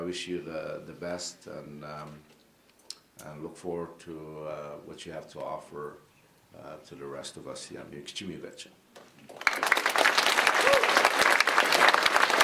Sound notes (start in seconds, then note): 8.6 speaking in indigenous language; 9.2 applause